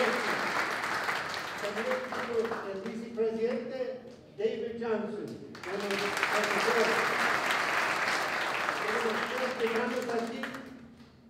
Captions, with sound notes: [NON-ENGLISH SPEECH] David Johnson. [APPLAUSE] [NON-ENGLISH SPEECH]